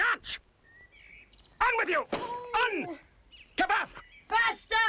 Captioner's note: dwarf speaking strange language; speaking strange language